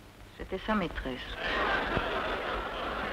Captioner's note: crowd noise